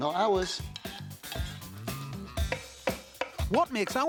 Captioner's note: upbeat music; knife thumping